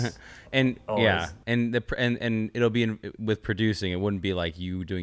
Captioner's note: laughs